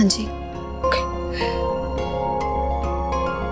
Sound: sighing

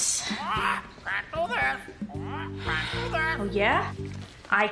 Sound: parrot squawking

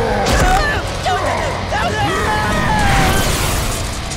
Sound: screaming

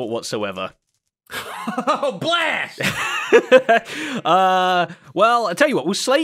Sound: laughs

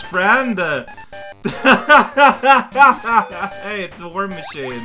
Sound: laughs

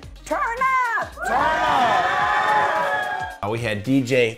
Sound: crowd cheering

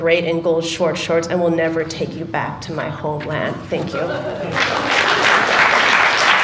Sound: laughter and Applause

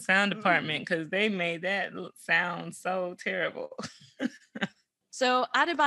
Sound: chuckles

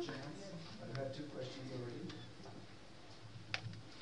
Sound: non-english

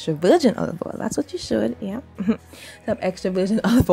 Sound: giggles

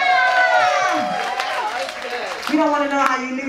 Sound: audience applauding and cheering

